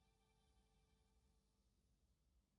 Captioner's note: none